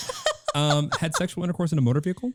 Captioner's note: laughing